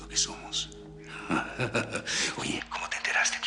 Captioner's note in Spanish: Risas